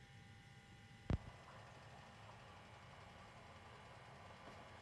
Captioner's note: record hisses softly